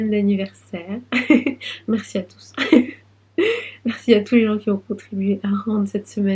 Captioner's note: laughs